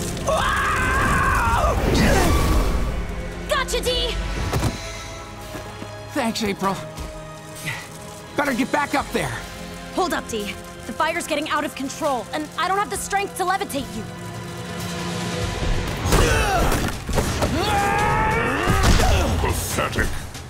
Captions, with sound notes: [screaming] [grunting] Gotcha, D! Thanks, April. Better get back up there. Hold up, D. The fire's getting out of control! And I don't have the strength to levitate you. [grunting] Pathetic.